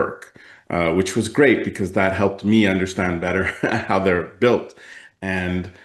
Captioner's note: laughs